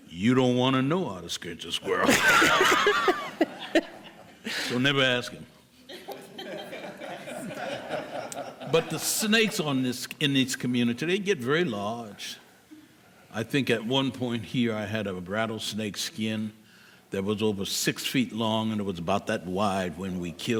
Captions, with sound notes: you don't want to know how to scrinch a squirrel (people laughing) You'll never ask him but the snakes in these communities, they get really large I think at one point here, I had a rattlesnake skin that was over 6 feet long and about that wide when we killed it